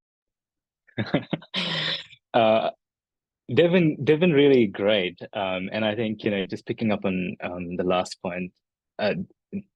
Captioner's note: laughs